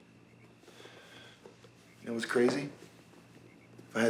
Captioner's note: sighs